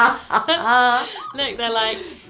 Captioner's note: laughing